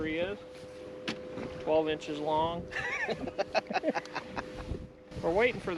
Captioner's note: laughter